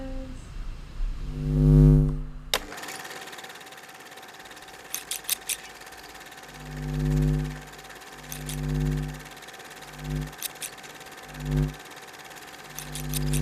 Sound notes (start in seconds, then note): 2.2 scissors snip; 2.2 video recorder rattles